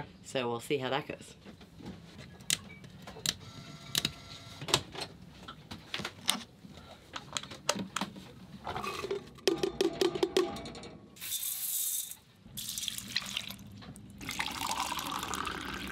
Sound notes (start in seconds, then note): 3.9 switches clicking; 9.7 food thudding into pot; 14.2 liquid gurgling